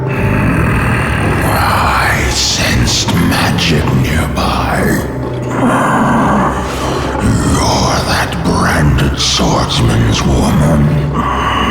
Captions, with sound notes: Hmmm, I sensed magic near by... (Growl) You're that branded swordsman's woman.